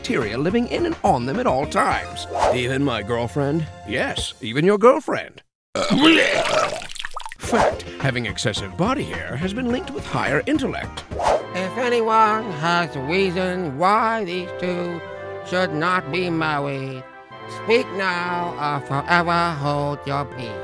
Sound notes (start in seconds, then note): 4.0 voiceover; 5.7 vomits